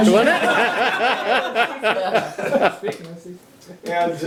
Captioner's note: laughter